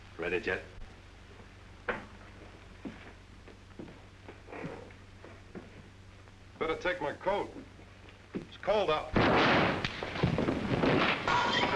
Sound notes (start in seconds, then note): 9.1 gun firing; 10.7 thump; 11.5 scuffling